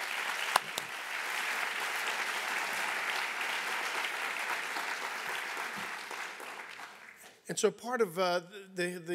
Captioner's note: applause